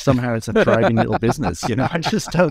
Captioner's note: laughing